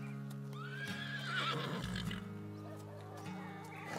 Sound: horse neighs

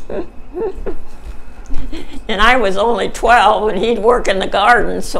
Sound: chuckles

